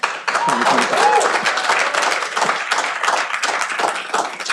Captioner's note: cheering